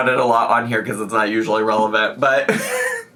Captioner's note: laughs